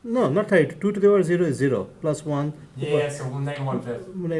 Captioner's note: voiceover